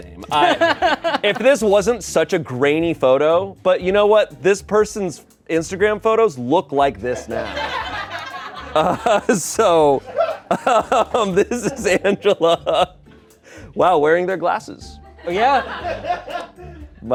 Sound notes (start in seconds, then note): 7.1 laughter; 12.7 laughs